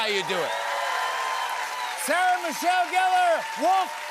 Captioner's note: cheers and applause